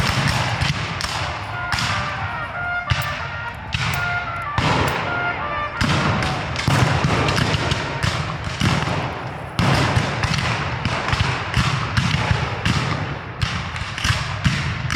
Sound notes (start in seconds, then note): 1.7 dramatic bugle music; 7.2 guns fire